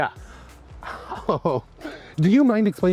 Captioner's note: laughs